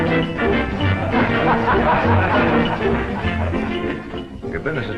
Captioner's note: laughter